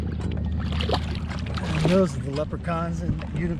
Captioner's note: fish splashing